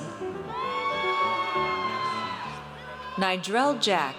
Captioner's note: audience cheers